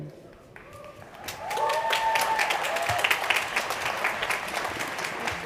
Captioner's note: crowd cheering